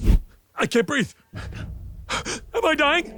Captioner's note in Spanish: Bojack respira pesadamente